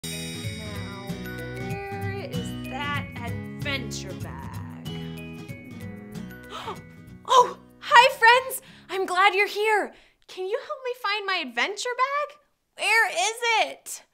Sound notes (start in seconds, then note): 6.4 gasps